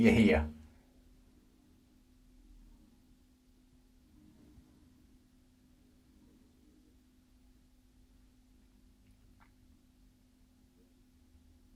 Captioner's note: silence